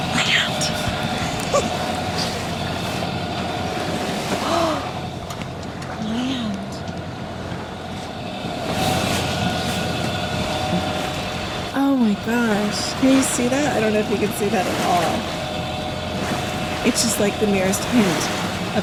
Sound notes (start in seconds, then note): 1.2 giggles